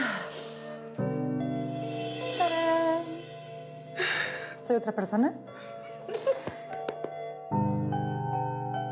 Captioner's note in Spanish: exhala